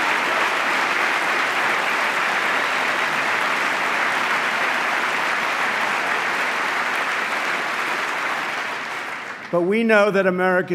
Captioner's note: applause